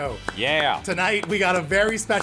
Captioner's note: clapping